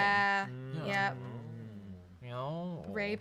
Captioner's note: moan in agreement